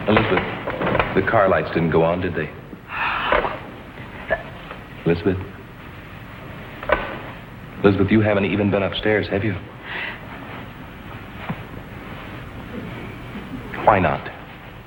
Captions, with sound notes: Elizabeth, the car lights didn't go on, did they? - (gasps) - Elizabeth. Elizabeth, you haven't even been upstairs, have you? Why not?